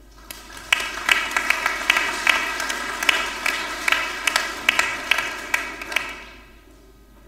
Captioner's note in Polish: oklaski